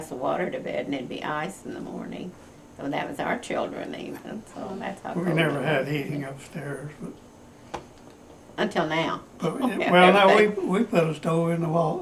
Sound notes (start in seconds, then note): 8.4 laughs